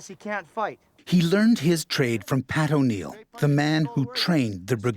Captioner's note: voiceover